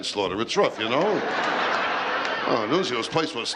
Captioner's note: laughter